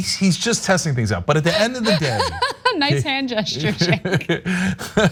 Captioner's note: laugh